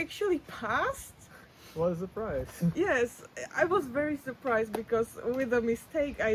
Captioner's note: laughs